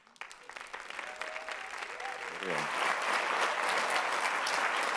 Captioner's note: audience applauds